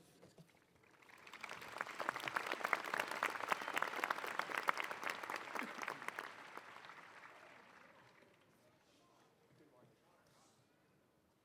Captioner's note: applause